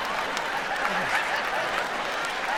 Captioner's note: laughing